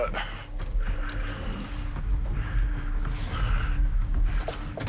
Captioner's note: breathing heavily